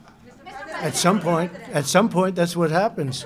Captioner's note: laughter